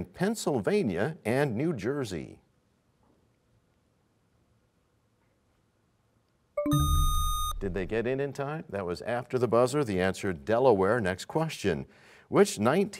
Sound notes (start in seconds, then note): 6.6 buzzer sound; 6.6 bell chimes, time expires